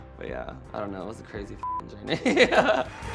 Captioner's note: beep